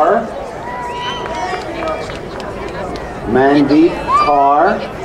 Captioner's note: crowd cheering